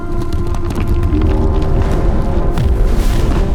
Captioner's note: roads crumbling